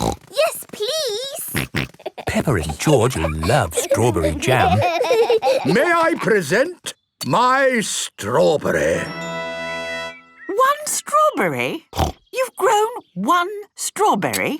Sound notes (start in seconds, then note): 5.1 laughing